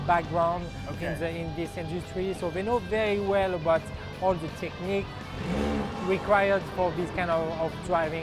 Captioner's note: car revs